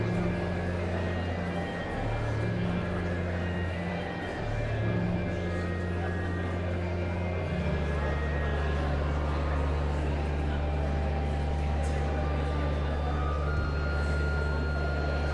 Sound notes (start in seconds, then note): 0.2 pensive organ music continues; 4.5 audience chattering continues